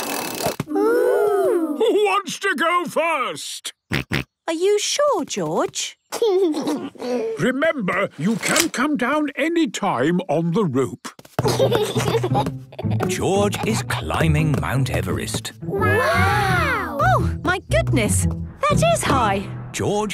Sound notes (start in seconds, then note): 3.8 George snorts; 6.3 giggles; 11.4 giggles